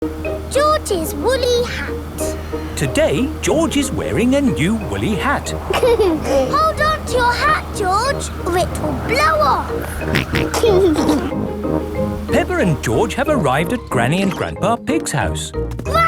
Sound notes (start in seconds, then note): 5.6 giggles; 9.6 snorts and giggles